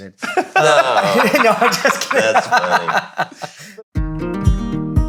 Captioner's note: all laughing